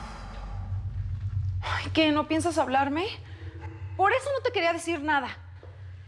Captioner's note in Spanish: él exhala